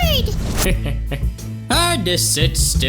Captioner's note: dimentio laughs